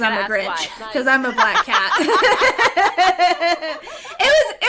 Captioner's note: laughter